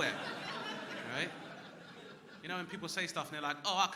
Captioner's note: crowd laughing